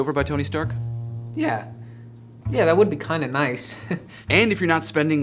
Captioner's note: chuckles